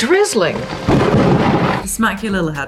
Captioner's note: thunder